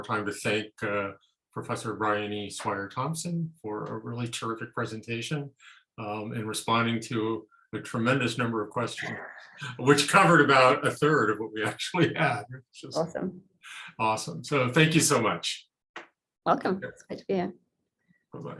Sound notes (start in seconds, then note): 12.4 chuckling